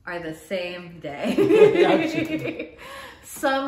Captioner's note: both laugh